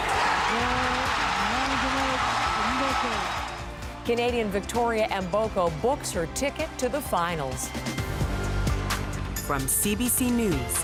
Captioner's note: cheers and Applause